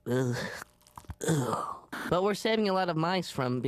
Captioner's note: groaning in disgust